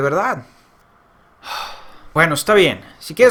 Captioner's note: sigh